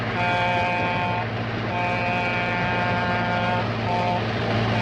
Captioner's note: train whistle blowing